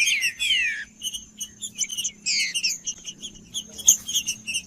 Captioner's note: trinca ferro cantando